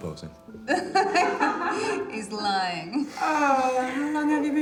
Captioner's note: laughing